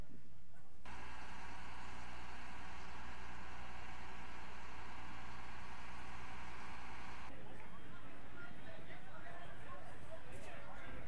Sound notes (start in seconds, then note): 1.0 crane cranking; 7.3 crowd chattering